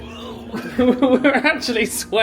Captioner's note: groans